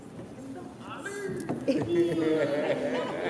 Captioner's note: chatter; laughter